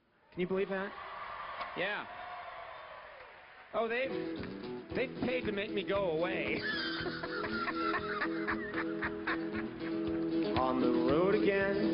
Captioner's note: laughs